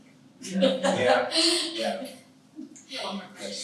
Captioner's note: all laugh